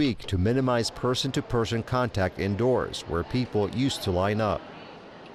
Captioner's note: people chattering